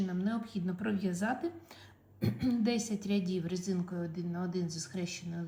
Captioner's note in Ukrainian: прочищення горла